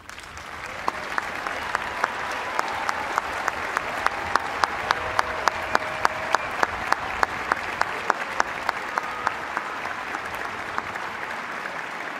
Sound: applause

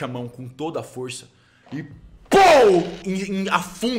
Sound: pow

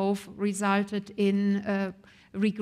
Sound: none

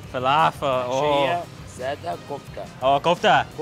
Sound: speaking in foreign language

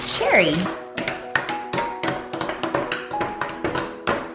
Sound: tapping

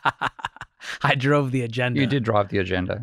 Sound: laughs

